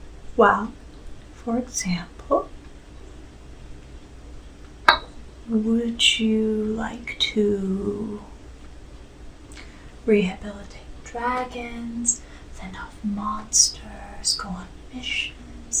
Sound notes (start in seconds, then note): 4.9 teacup clacks